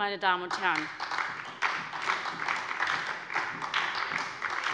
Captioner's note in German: Beifall bei der SPD